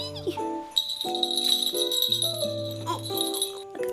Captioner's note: jingle bells on costume tinkling